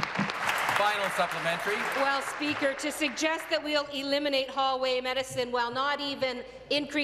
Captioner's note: applause